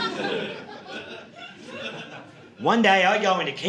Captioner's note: audience laughing